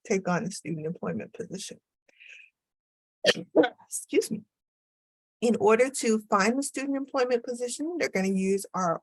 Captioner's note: speaker coughed